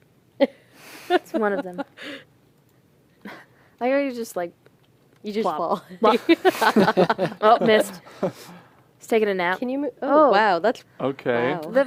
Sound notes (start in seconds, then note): 6.0 laughter